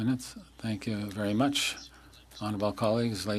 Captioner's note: speaking French